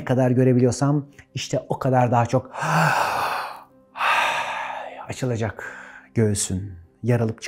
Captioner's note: heavy breathing